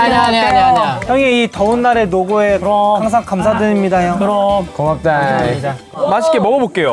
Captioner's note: sounding very formal